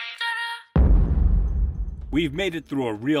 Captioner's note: dramatic boom